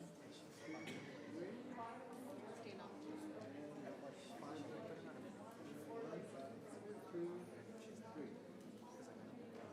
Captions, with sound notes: One, two, three. (people chattering) One, two, three.